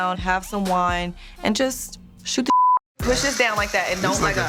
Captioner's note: beep